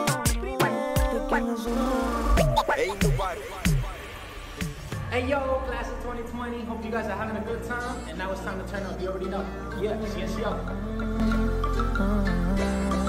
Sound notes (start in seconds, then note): 5.6 speaking English